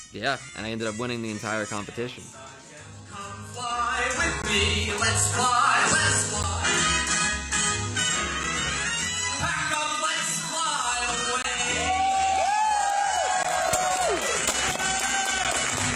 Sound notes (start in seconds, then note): 11.6 audience cheers